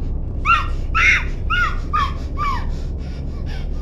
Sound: muffled screaming

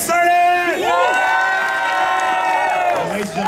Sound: audience cheering

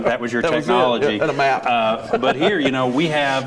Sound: laughs

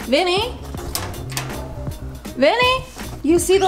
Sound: metal swooshing

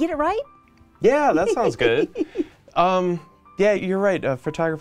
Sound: woman laughing

